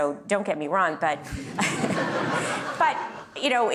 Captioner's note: laughter